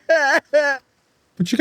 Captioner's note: crying